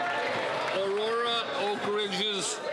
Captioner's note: some Applause